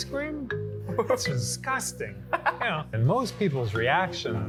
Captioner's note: laughs